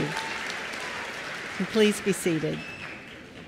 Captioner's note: applause